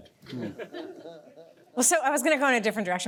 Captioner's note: audience laughs